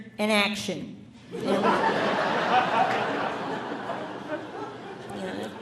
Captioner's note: audience laughing